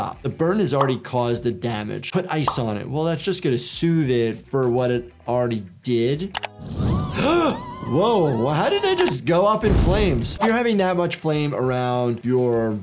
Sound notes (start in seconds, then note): 6.4 doctor gasps